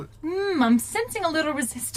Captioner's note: whispering